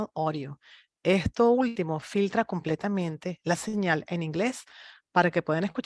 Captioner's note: speaks in Spanish